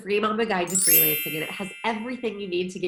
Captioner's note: chimes chiming